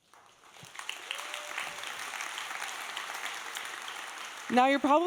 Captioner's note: audience applauding